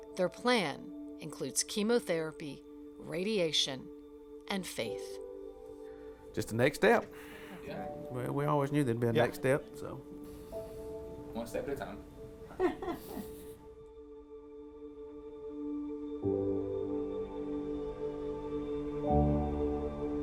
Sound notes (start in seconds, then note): 12.5 laughing